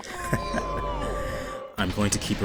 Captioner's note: jeers, general sound of disappointment; deep inhalation